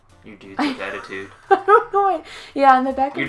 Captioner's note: laughs